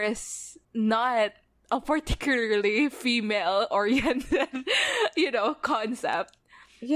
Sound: laughs

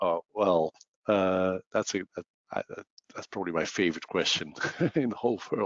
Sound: laughs

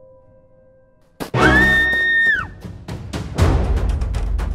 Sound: woman screaming

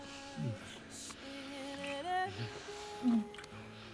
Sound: Charlie moans

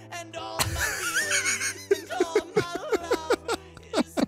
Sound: laughs

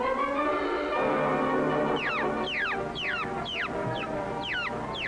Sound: chick distress sounds

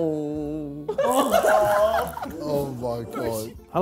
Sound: Sidemen laughing

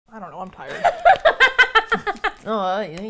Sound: laughs

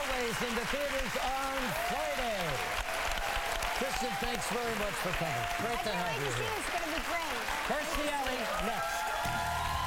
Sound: applause

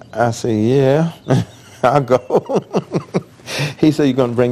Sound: laughing

